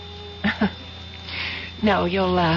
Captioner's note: laughs